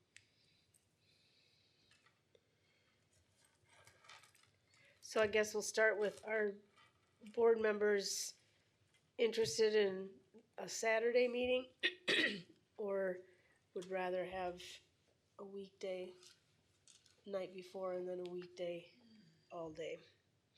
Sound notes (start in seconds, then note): 11.8 clears throat